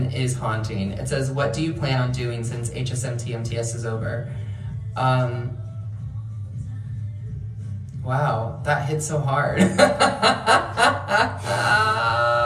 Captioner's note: laughter